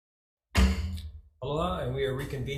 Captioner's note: gavel bangs